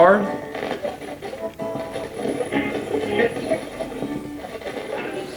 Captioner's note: radio channels changing